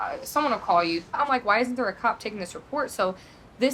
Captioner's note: none